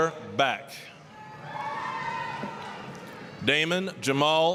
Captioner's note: applause, cheering